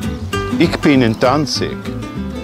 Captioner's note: speaking polish